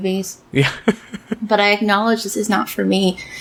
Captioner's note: laughs